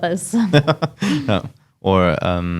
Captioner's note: laughs